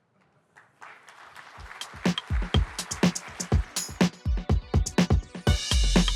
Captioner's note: applause